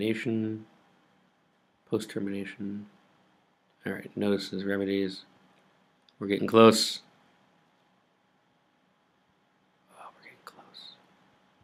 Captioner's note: whispers